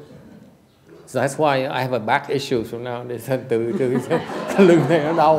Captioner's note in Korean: 웃음